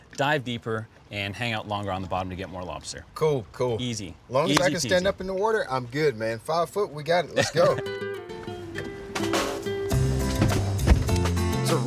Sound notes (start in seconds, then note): 7.3 laughs; 7.3 lighthearted upbeat music